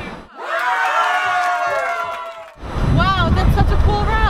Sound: cheering

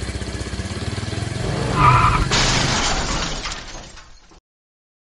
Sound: bike Crashes

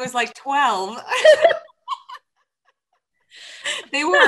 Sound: panel laughs

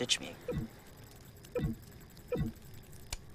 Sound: device blipping

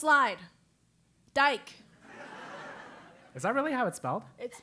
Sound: laugh

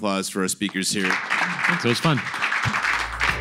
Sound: applause

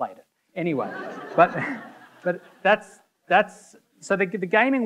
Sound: audience laughing; laughs

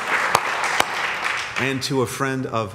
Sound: applause

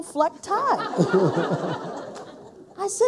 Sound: people laughing

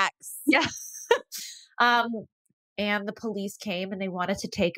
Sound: laughs

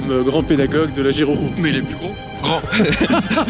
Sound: laugh

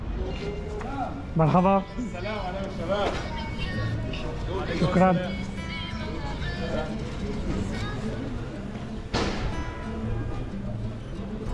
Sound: Arabic

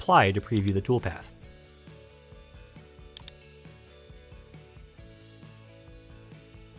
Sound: soft music; mouse clicking

